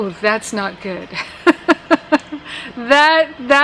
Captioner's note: chuckles